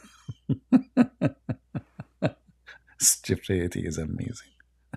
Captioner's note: Ketawa